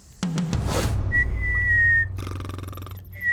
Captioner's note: snoring